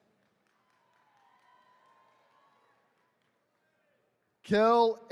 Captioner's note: attendees cheering